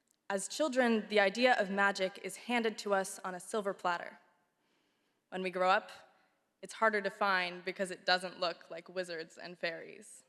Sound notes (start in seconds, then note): none